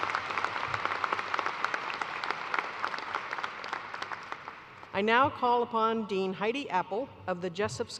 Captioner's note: applause